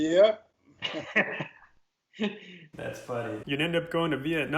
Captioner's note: laughing